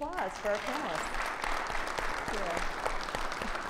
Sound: audience clapping

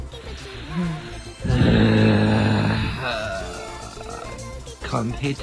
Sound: exhasperated Sigh

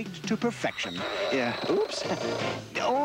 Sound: pressure cooker strains, whistles

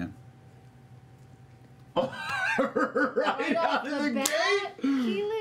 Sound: laughing

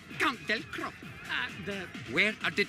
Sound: stutters

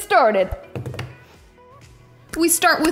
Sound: drums on table

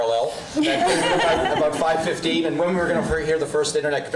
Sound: laughing

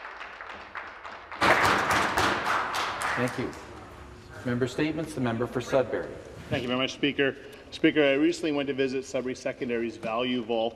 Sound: applause

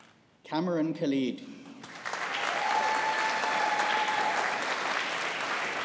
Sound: audience applauding

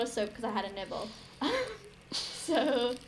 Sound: trying not to laugh at own joke

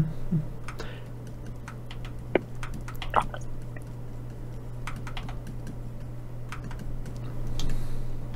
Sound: typing

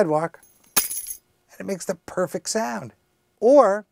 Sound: sound of keys hitting cement

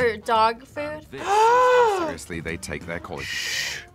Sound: gasps

